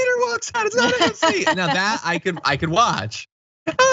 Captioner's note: laugh